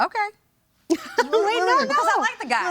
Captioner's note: laughs